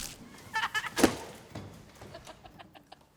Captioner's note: kids laughing